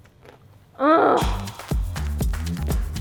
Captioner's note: groans in satisfaction; upbeat music